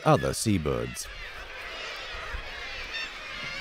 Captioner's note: birds squawking